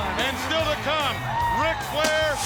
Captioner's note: upbeat music; fireworks booming